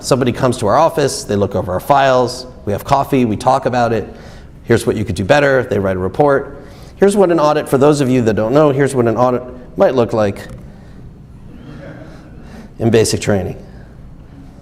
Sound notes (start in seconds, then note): 11.4 audience laughs